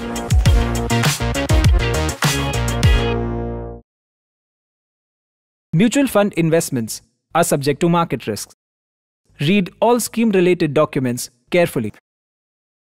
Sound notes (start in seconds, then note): 0.0 upbeat music; 5.8 voiceover